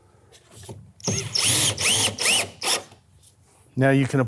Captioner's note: tool whirring